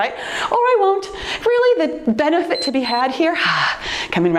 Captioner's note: timer beeps